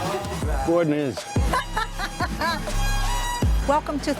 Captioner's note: laughs